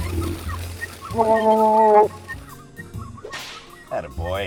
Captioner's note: Sasquatch cries out in a muted Chewbacca-like call